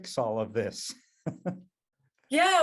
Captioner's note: chuckles